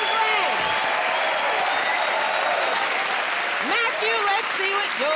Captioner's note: cheers and applause